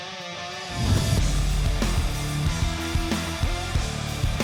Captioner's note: whooshing